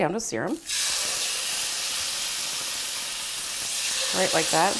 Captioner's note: meat sizzles